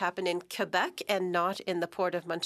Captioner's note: speaking French